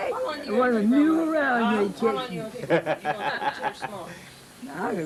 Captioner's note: laughing